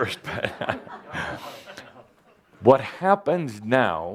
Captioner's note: Adamus chuckles